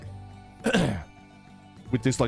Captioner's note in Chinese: 清喉嚨